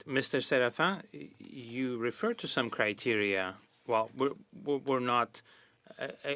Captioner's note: speaking French